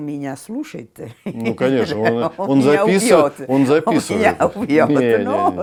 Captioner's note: laughs